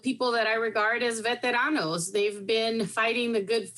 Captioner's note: speaking in foreign language